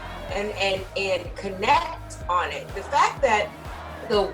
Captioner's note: protestors chanting